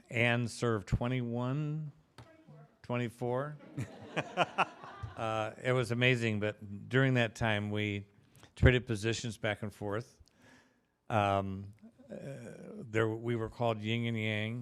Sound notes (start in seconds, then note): 3.7 laughing